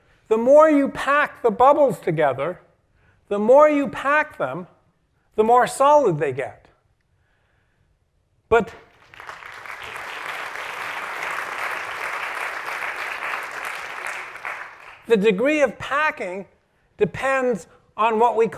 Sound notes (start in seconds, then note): 8.8 applause